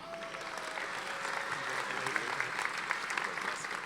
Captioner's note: audience applauding